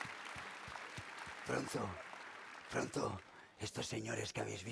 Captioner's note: speaking spanish